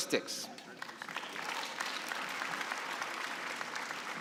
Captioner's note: applause